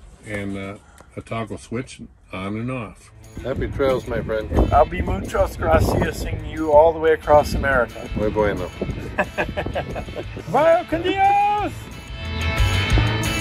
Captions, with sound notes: And, a toggle switch on and off. Happy trails, my friend. I'll be muchos graciasing you all the way across America. Muy bueno. [laughing] Vaya con Dios!